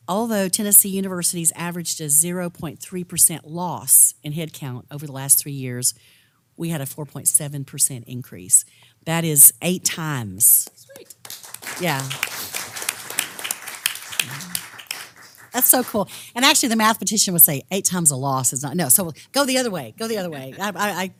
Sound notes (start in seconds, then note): 10.9 applause